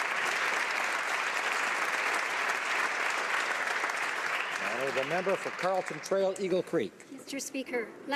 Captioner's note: applause